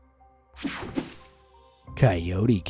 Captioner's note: screen whooshing